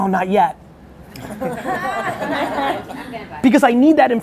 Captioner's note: laughs